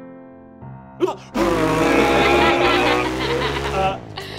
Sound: laughing; revving

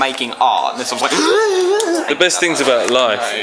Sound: higher pitch noise

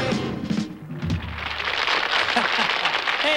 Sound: applause

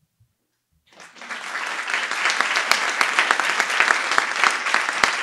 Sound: audience applauding

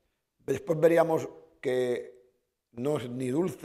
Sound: speaking spanish

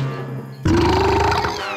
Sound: burping; giggling

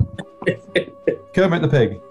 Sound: chuckling

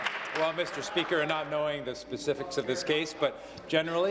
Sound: applause

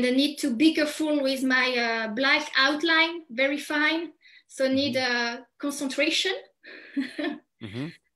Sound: chuckles

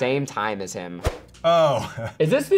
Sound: chuckles

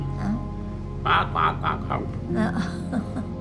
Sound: gobble sounds

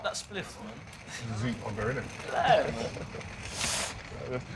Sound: chatting

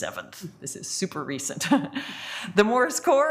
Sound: laughs

